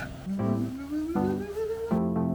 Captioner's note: humming